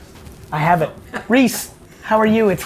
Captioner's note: laughs